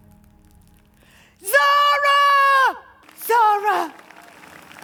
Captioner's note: shouts from behind the audience